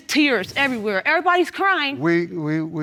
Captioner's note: stammering